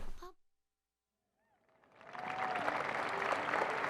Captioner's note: cheers and applause